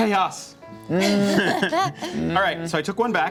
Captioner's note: chuckles